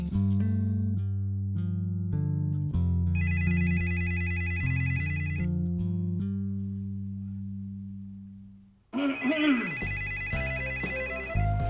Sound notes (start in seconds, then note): 3.2 phone ringing; 8.9 clearing throat